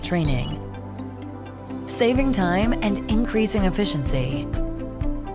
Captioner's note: series of electronic tones